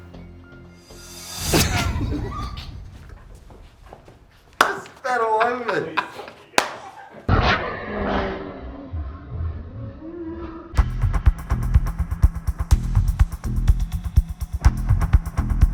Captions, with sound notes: (both laugh) - You spat all over me. (laughing in slow motion) (upbeat music)